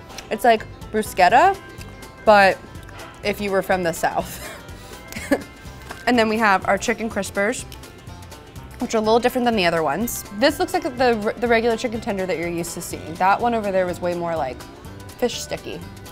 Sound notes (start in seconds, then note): 5.1 giggling